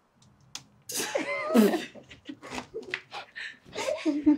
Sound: all laugh

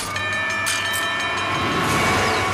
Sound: train beeping

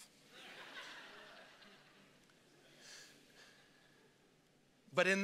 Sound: congregation laughing

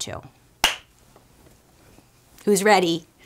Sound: claps hands

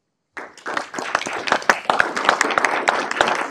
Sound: applause

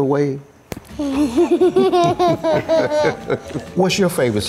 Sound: laughing

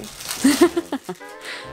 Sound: plastic rattling; laughs

